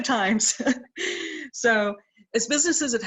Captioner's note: laughs